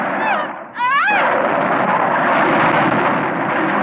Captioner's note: yelling